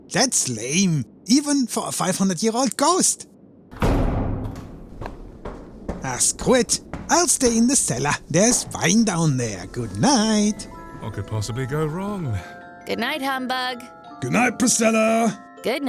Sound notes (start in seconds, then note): 3.7 door slamming shut; 5.4 footsteps on stair